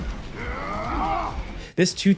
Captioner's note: Agent Smith yells